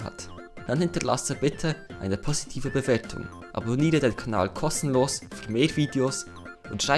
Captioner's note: german